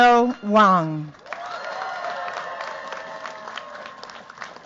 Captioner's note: cheers, applause